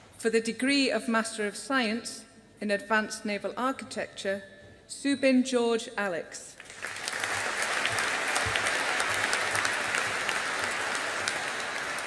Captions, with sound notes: For the degree of Master of Science in Advanced Naval Architecture, Subin George Alex. (AUDIENCE APPLAUDING)